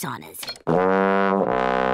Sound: horn blowing

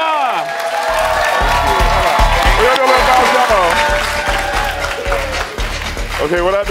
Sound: audience applauds

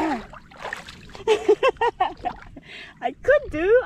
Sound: laughter

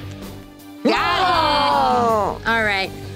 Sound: groans

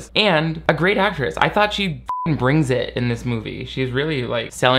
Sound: beep

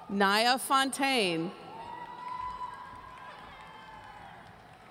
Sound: audience cheering

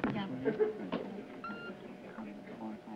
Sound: beeping

